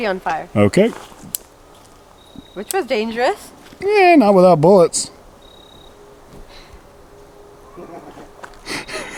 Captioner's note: laughing